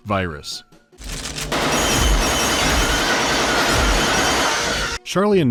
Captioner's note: gunfire, bullets plinking off metal and monster screeching